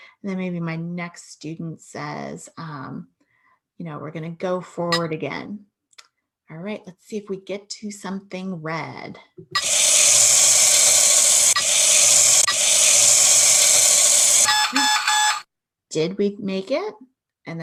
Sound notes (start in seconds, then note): 9.6 machine wooshing; 14.6 timer buzzing